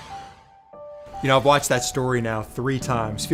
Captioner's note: logo whooshing